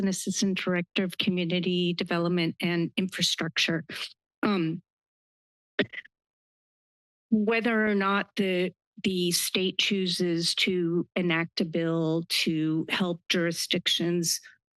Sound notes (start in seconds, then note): 5.8 microphone noise